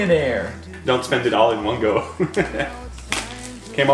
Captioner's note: laughs